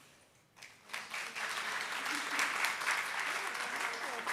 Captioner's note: audience claps